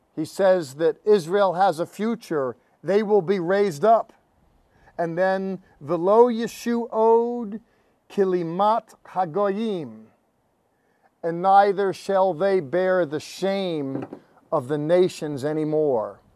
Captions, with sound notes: He says that Israel has a future. They will be raised up. And then-- [speaking in Hebrew]"And "